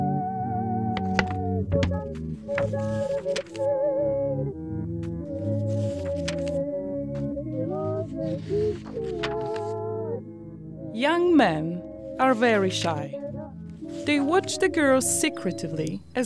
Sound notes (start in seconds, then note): 1.7 paper riffling; 7.5 paper riffling